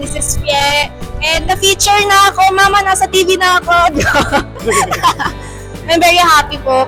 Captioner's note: laughs